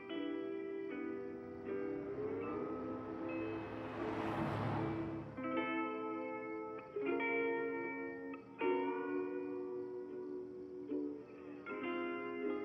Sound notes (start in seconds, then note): 0.0 soft Hawaiian music; 3.9 cars whooshing; 8.2 soft Hawaiian music